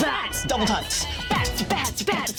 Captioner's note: beatboxing